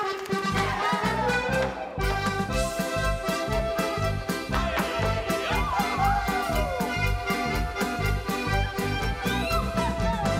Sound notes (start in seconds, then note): 0.0 audience clapping; 0.2 lively music; 4.5 dancers shouting